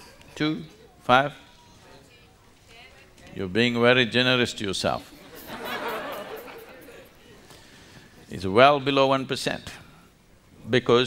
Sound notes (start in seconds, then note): 5.1 laughter